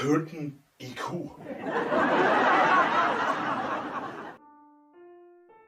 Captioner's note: laugh track plays